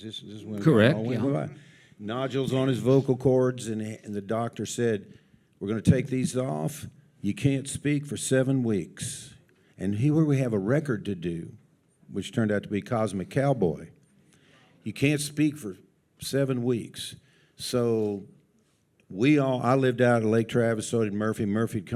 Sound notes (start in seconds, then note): none